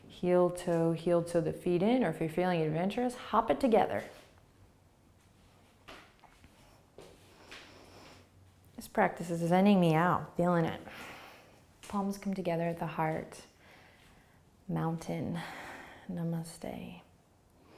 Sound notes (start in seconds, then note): 4.5 breathing; 17.5 inhaling and exhaling